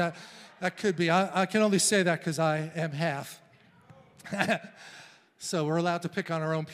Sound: laughs

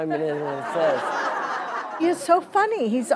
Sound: laughing

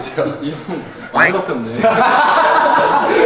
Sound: laughing

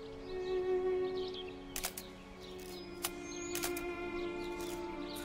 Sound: shutter sounds

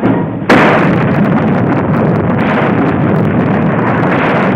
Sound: explosions roaring

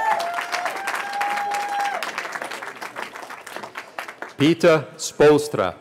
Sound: cheering

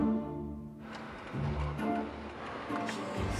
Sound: starts car

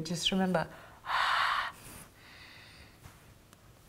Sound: deep breathing

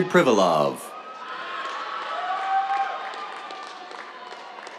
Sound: cheers, applause

